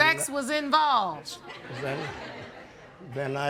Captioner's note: audience laughing